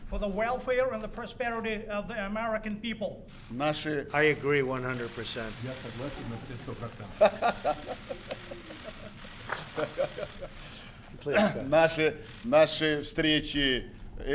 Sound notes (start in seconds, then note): 6.9 laughter